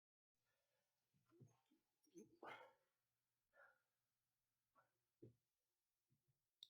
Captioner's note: silence